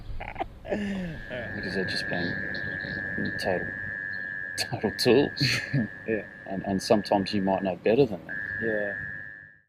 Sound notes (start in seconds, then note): 5.2 laughs